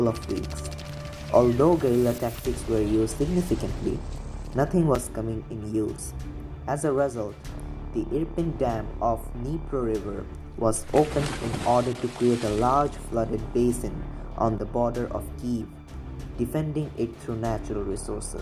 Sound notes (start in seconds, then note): 7.3 massive water splashing